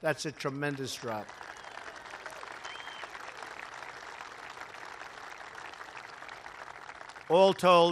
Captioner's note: applause